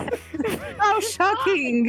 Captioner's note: laughs